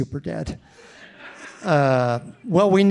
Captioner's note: audience laughing